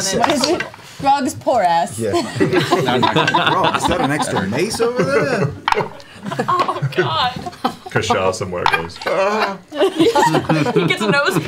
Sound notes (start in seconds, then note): 2.1 laughter